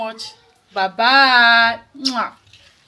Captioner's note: kisses